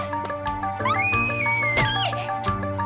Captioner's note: nina screams